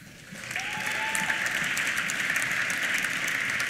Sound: applause; cheers

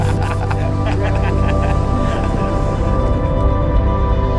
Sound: laughter; uplifting music

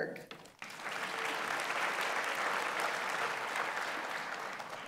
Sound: audience applauds

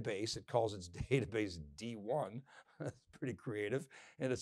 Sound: chuckles

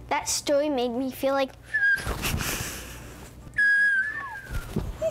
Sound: whistling

